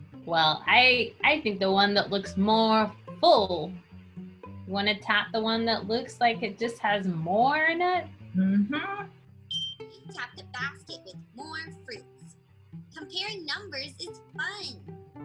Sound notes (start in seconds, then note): 9.5 bell dings